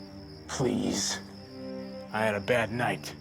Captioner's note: scoffs